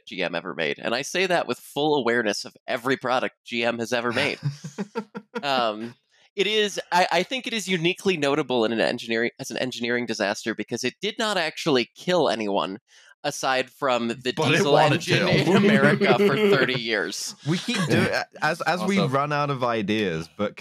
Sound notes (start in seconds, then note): 4.1 chuckles; 14.4 laughs